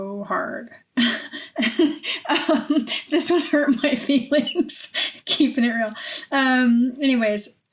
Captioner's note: laughing